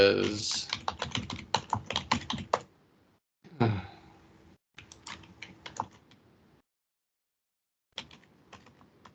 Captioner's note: typing sounds